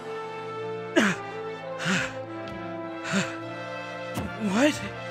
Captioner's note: panting